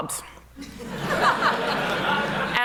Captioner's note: laughter